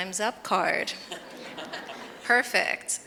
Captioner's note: audience and panelists laugh